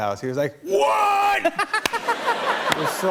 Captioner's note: laughter